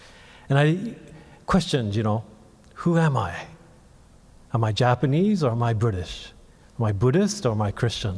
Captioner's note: none